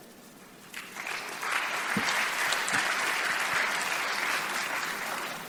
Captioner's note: audience applause